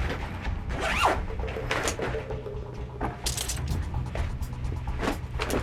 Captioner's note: suitcase unzipping